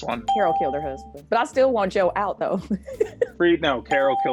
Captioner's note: laughs